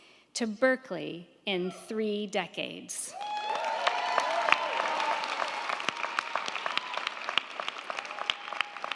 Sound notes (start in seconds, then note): 3.1 crowd cheering; 3.2 crowd clapping